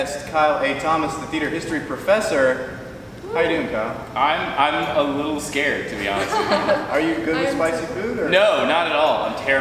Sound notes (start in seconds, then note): 5.9 laughing